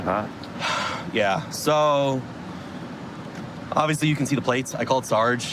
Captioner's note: sighs